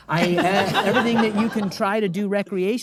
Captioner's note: audience laughing